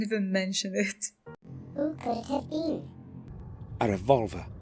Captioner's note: pitch up